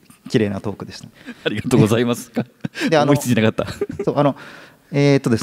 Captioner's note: chuckles; laughs